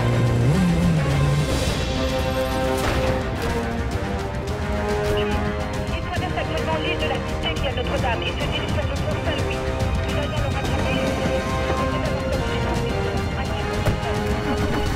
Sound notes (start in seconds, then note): 10.0 indistinct chatter